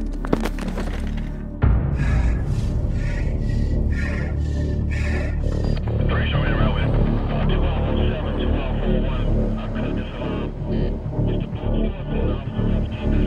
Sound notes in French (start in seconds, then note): 1.8 halètement Métallique